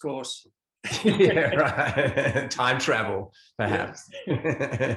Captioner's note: laughing